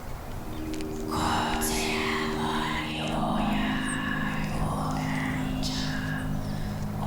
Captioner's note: raspy whispering in foreign language